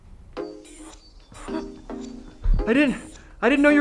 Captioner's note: laughs nervously